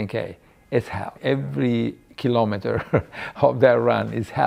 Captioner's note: chuckles